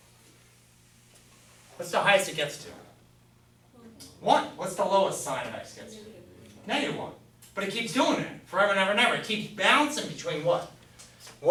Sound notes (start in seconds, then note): 3.8 voiceover